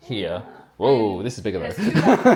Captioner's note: laughs